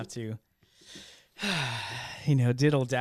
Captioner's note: sighs